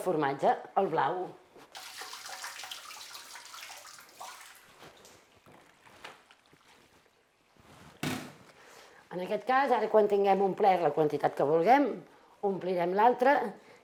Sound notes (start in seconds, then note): 1.7 liquid dripping; 8.0 metal clang